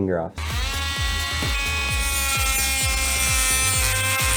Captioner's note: saw buzzing